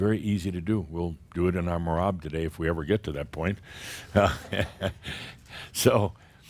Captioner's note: Adamus chuckles